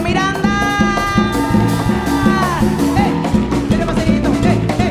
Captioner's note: audience cheering and applauding; cuban music continues